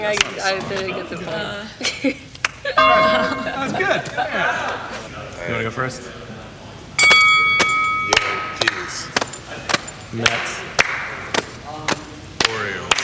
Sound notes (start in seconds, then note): 3.2 voice-over; 7.0 bell rings